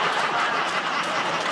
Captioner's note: laughter